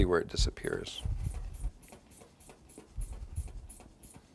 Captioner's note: air pumping